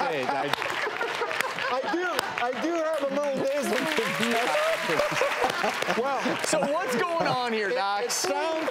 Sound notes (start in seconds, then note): 0.1 all clapping; 4.3 audience clapping and laughing